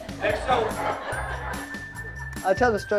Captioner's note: audience laughs